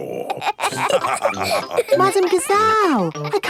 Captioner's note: all laughing